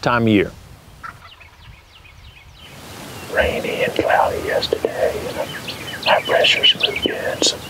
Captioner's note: whispering